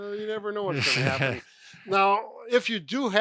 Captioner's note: laughs